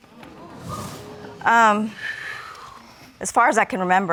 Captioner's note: audience gasps; sighs